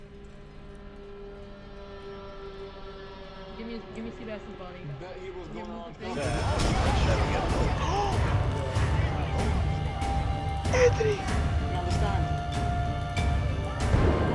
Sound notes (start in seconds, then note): 0.0 eerie music starts playing; 0.1 quiet conversation; 6.3 gunshots, music gets louder; 8.7 gasps